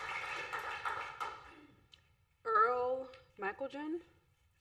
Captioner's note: applause